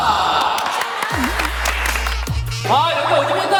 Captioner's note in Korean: 짝짝 짝짝